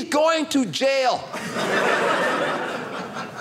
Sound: audience laughing

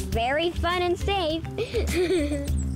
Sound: giggles

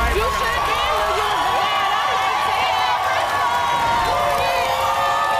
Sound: audience cheers

